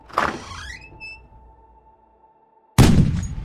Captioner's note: door opening